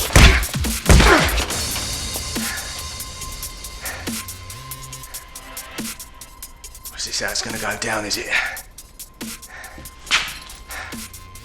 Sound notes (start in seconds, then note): 0.0 foot pounding; 2.9 Andy breathing heavily; 2.9 upbeat music